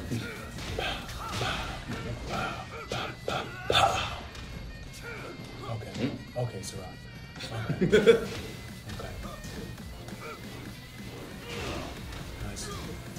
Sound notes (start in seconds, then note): 7.3 laugh